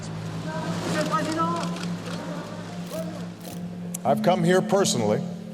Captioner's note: camera clicking